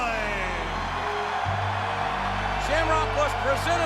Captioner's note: crowd cheers